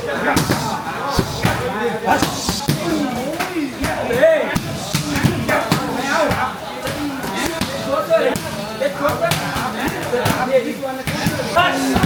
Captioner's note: crowd chattering